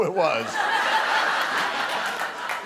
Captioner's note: laughter